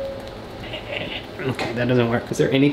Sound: laughs

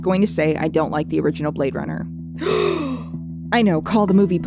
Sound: gasp

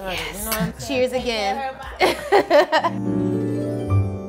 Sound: laughs; peaceful orchestral music

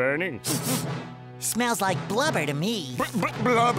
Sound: sniffing

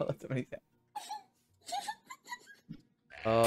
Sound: laughing

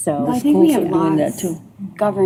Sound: indistinct chatter

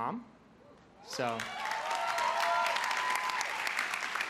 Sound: crowd cheers

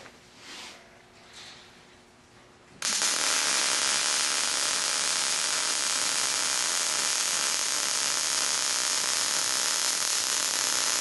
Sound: welding

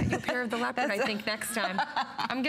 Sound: laughter

